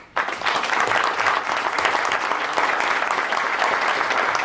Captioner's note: applause